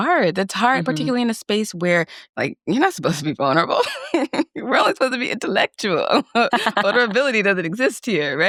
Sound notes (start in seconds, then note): 4.4 laughs; 6.2 laughs